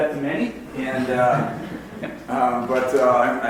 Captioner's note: audience laughs